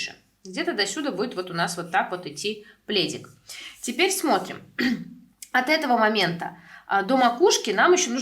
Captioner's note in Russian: откашливается